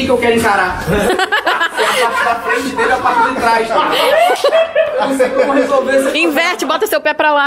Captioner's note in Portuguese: risadas